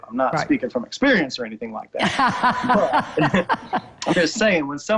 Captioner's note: laughter